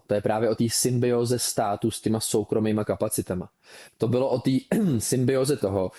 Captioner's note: clears throat